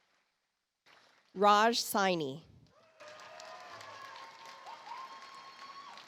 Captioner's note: audience applauds